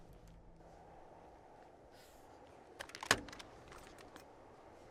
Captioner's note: wind blowing